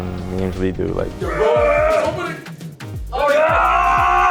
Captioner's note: roaring